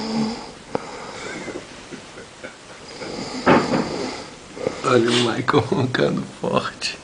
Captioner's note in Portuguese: barulhos parecidos com uma moto-serra